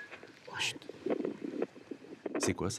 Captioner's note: heartbeats